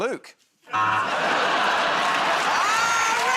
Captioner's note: buzzer